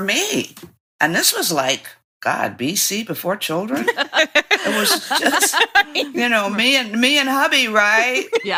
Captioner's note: laughter